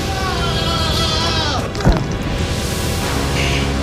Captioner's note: julian screams; bone breaking thud